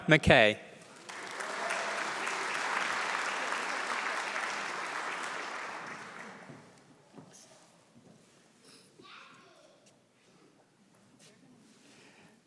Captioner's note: applause